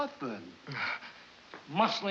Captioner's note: panting